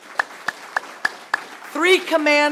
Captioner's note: applause